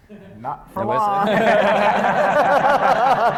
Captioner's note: laughter